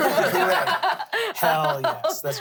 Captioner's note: everyone laughs